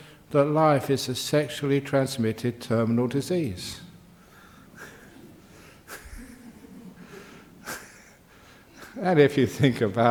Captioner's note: chuckles